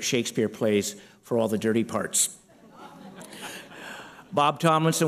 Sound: laughter

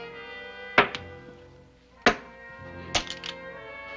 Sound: thud, thud

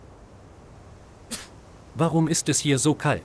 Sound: sneezing

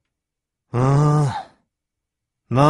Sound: sigh

